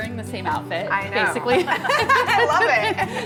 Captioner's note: laughs